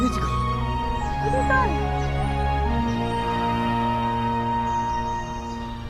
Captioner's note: both speaking in foreign language